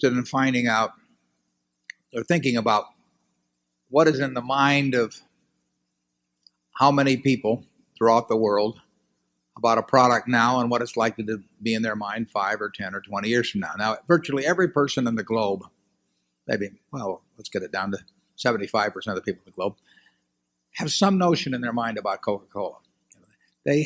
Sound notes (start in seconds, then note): none